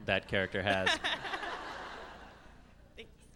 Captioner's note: laughs